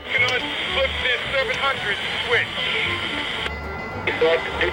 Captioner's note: voiceover